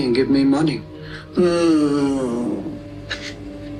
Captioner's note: groaning